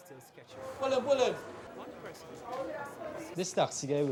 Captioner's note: speaks foreign language